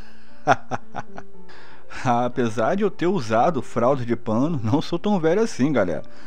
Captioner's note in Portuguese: Risos